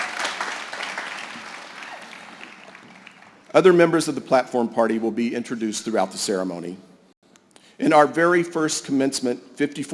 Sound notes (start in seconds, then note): 4.5 applause